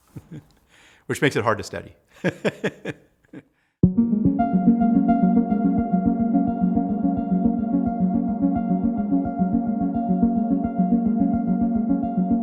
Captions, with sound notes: which makes it hard to study. (laughing) (bright whimsical music)